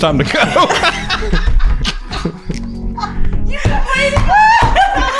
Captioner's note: everyone laughs